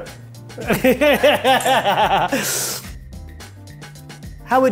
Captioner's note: laughing